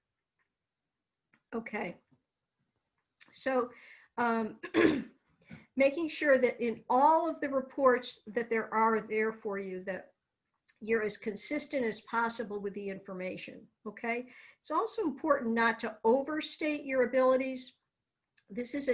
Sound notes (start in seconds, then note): 2.3 clears throat